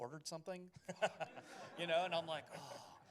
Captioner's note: laughter